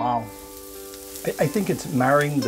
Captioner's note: sizzling